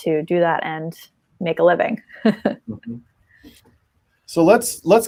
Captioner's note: chuckles